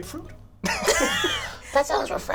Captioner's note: laughs